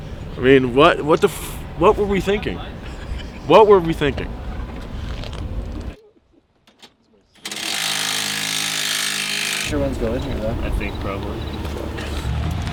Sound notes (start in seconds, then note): 7.4 metallic whirring